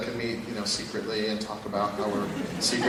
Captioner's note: laugh